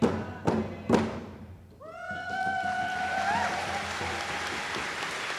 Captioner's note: applause